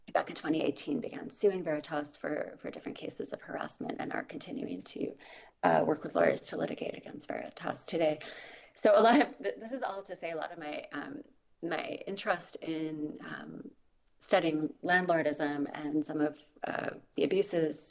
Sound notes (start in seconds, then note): none